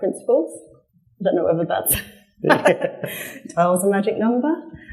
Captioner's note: laughs